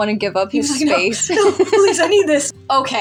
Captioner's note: laugh